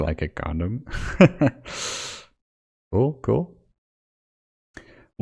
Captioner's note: laughs